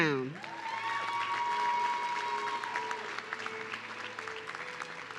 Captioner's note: audience cheering